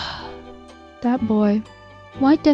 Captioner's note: sigh